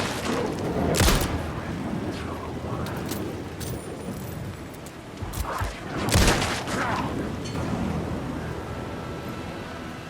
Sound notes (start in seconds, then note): 6.0 gunshots